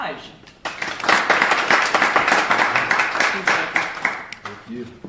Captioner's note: applause